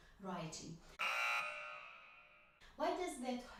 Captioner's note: buzz